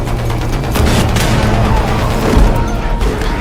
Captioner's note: explosion blasting; soldiers groaning